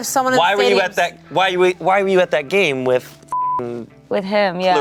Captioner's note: beep